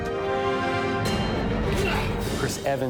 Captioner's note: grunts